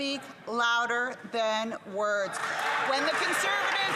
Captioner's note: some Applause